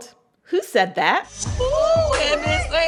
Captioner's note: soundbite of tv show, "the real housewives of atlanta"